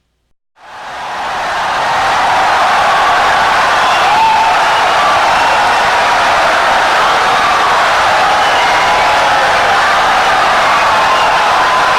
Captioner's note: wild applause and cheering for 17 seconds